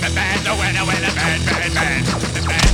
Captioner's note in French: Bruit de tirs laser